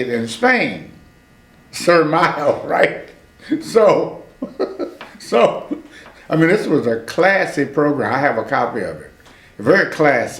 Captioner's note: laughs